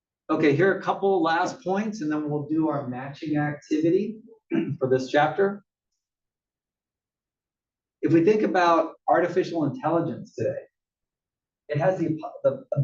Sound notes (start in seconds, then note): 4.5 cough